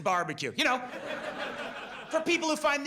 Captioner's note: audience laughs